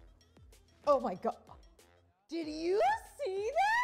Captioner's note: screams